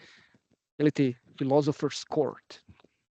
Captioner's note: in Croatian